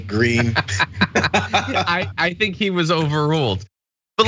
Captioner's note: laugh